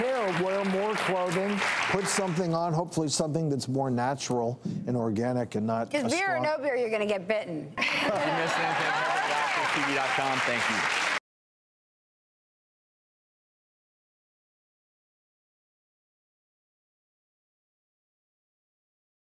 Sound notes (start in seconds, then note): 11.9 applause